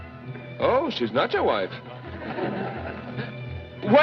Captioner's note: crowd Chuckles